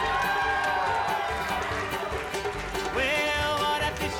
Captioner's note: audience cheering